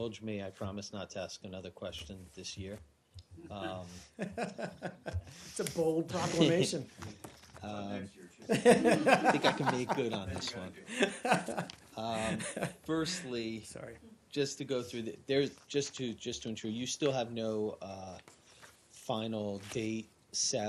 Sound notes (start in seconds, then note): 4.1 laughter; 8.4 laughter